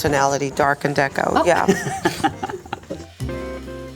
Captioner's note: laughs; upbeat music fades